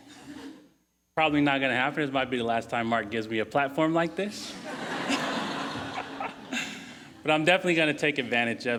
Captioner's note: laughing; laughing